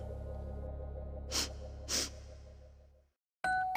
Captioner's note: sniffs